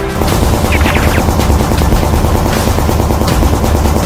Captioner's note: guns firing